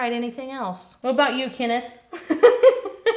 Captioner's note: laugh